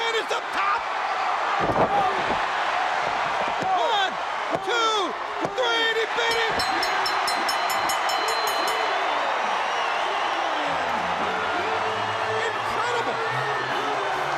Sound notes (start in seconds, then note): 0.0 crowd cheering; 1.8 crowd cheering; 7.9 bell ringing; 9.4 crowd cheering